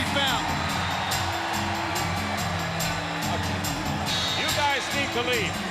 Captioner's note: audience cheering; upbeat music